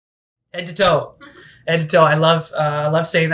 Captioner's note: lady chuckles